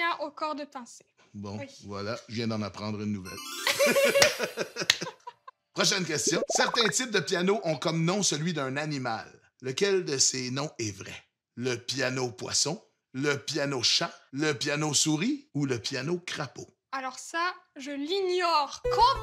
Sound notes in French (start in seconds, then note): 3.6 rires